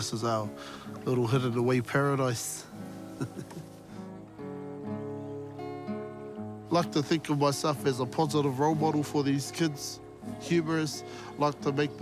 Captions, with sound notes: This is our little hidden-away paradise. (CHUCKLES) I like to think of myself as a positive role model for these kids, humorous.